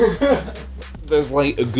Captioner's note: laughter